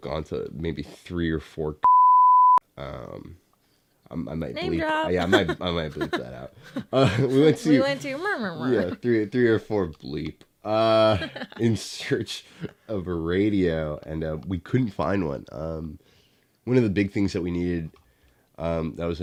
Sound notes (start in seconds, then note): 11.6 murmur